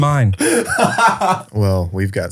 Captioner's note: laughing